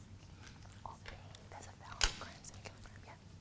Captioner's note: whispering to student